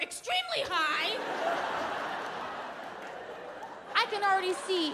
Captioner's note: audience laughing